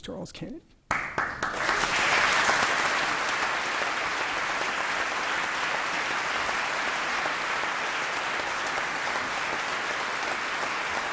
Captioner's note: applause